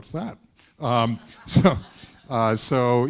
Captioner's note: students laughing